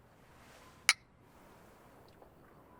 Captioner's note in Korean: 잔 부딪히는 소리